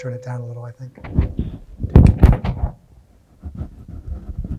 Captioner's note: static hissing